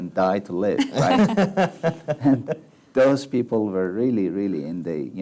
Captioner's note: laughs